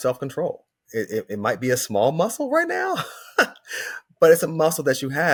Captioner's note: chuckles